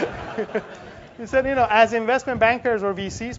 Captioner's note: laugh